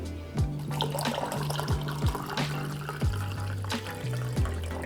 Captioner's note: liquid sloshing